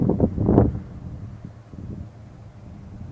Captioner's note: light wind noise